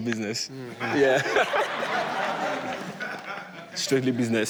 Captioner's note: audience laughs